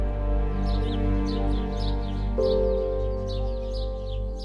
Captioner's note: birds twittering